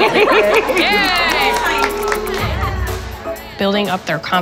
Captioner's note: laughs; applause